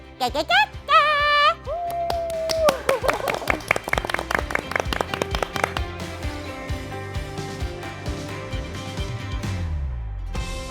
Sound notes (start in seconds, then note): 1.8 applause